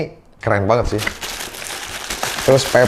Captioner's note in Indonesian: bunyi kertas